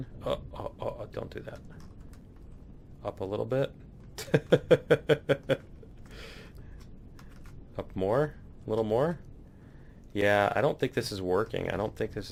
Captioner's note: laughs